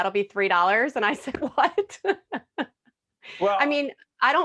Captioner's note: laughing